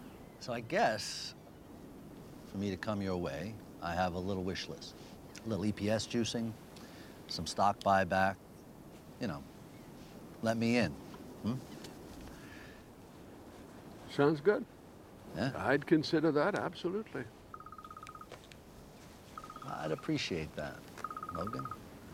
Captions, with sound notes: So, I guess... for me to come your way, I have a little wish list. A little EPS-juicing. Some stock buyback. You know... let me in. Hmm? Sounds good. I'd consider that. Absolutely. (PHONE RINGS) I'd appreciate that, Logan.